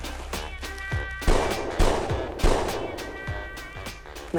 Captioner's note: bang, bang, bang